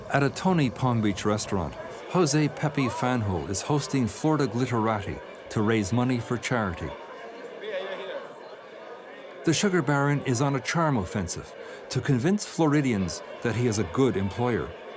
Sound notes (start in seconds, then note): 8.6 people chattering